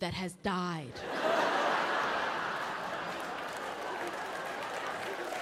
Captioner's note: audience laughing and clapping